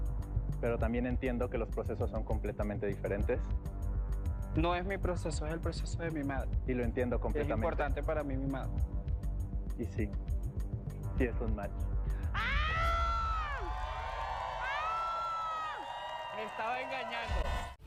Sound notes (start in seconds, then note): 12.4 grita; 16.1 vítores